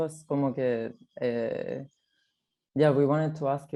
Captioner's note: speaks in foreign language